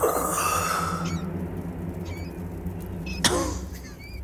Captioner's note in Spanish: Quejidos